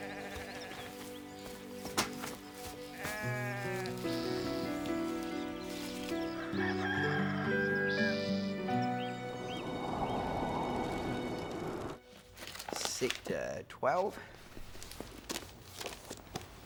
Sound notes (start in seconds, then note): 0.2 sheep bleating; 6.3 rooster crows